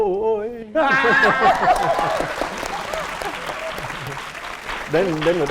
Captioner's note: applause and cheering